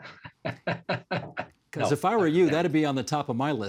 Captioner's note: laughing